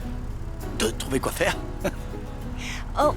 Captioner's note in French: rires